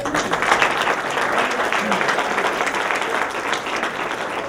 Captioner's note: applause